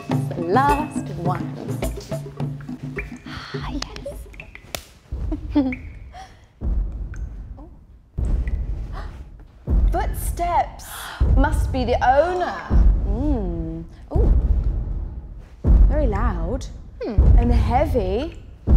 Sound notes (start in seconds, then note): 6.5 booming footsteps getting closer